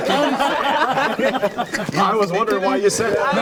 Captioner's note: everyone laughing